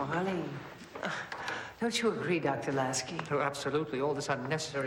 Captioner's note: scoffs